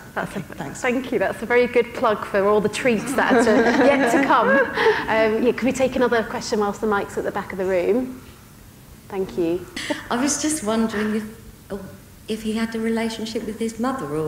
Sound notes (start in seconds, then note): 5.2 audience laughing